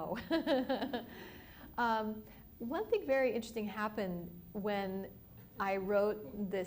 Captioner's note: laughs